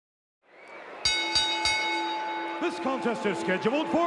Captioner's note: bell ringing